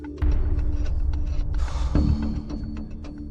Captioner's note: exhales heavily